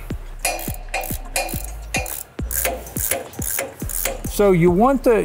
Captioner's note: metal clanging; ratchet rattling